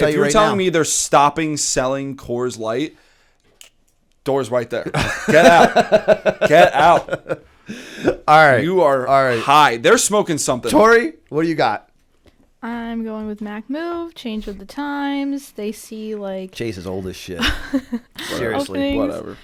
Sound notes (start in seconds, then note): 6.4 laughter; 16.0 chuckle